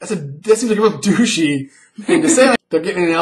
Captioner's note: laughs